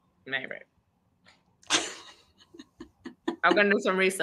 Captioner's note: laughing